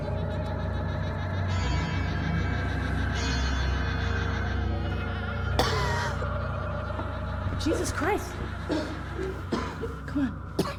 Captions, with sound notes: (Claire coughs) Jesus Christ. Come on.